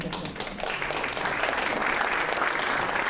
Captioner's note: audience applauding